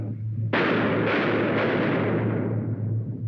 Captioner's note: gunshots